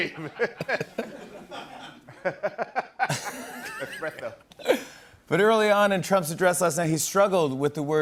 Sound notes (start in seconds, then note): 0.0 laughter